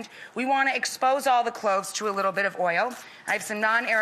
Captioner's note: none